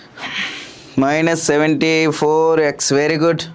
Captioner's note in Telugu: నిట్టూర్పులు